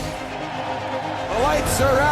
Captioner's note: crowd cheers